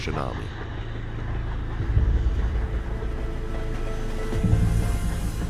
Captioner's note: steam train rumbling